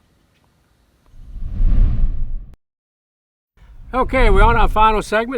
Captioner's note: air whooshing